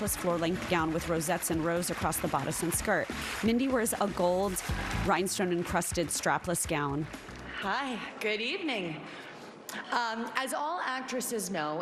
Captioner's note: applause